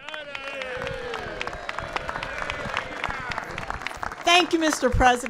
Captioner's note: applause